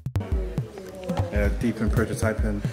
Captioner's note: group chattering